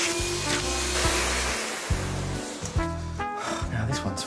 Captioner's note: vacuum cleaner turns off; sighs